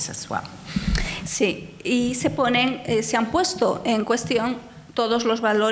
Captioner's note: speaking in foreign language